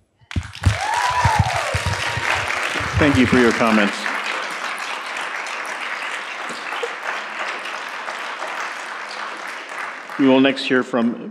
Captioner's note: applause and Cheers